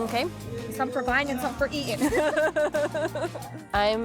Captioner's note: laughs